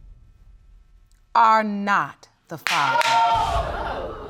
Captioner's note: audience exclaims